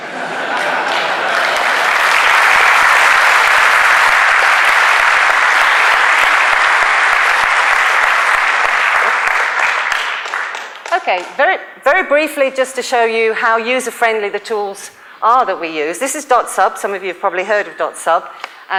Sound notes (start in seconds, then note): 2.6 applause